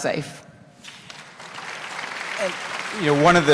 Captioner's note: applause